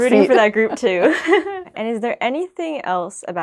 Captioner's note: laughing